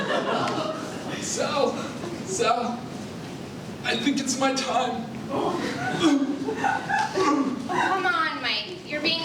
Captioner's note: coughing